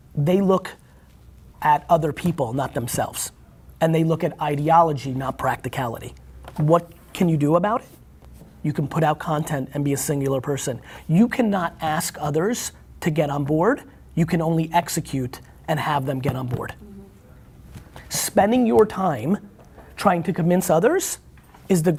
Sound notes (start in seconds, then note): none